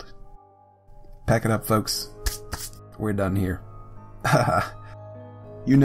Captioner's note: hands wipe